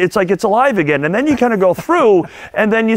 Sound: laughing

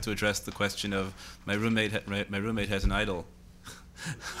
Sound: laughs

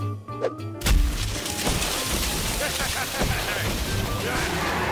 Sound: laughing

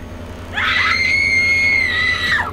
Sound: screams

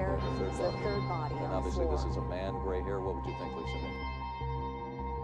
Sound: TV News Sound

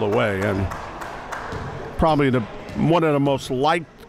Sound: applauding

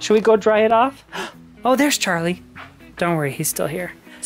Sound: gasps

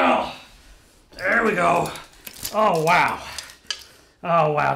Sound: groans

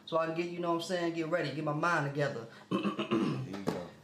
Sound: clears throat

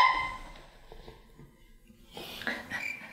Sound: silence

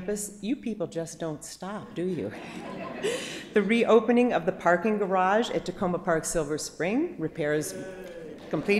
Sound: applause

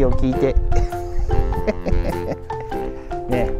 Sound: laughs

